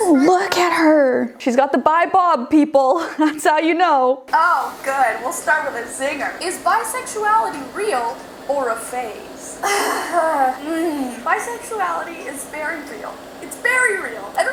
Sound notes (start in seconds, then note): 9.6 groaning